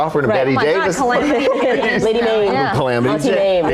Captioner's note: laughing